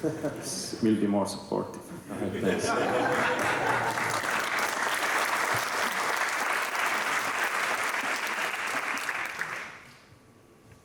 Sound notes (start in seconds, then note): 1.9 laughter; 3.0 applause